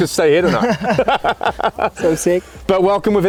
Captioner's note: laughing